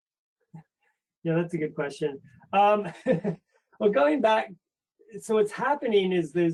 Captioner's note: laugh